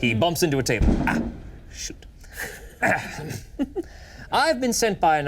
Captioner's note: clears throat